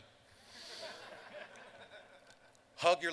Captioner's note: laughter